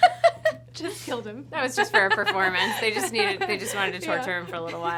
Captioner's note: laughing